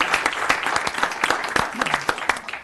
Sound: applause

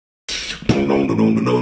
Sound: inhale

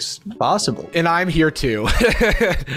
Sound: laughing

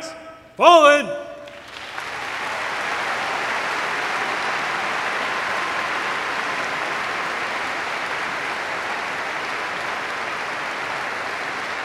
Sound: applause

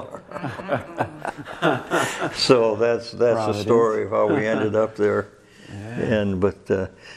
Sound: all laugh

